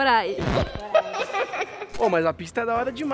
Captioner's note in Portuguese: Risos